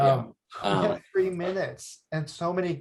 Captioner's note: chuckles